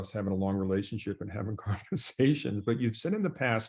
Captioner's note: chuckles